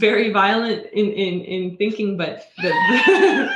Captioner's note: laughing